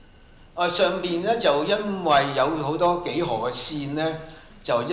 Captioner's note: Cantonese